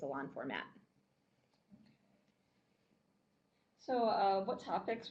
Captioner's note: no sound - waiting for questions